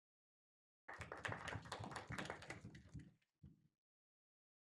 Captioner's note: applause